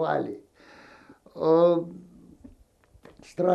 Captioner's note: sighing